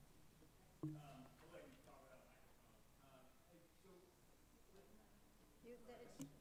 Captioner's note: speaks away from microphone